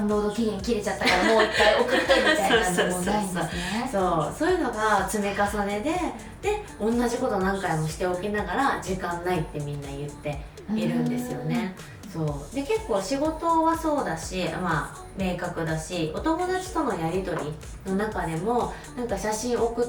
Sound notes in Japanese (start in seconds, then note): 1.0 笑い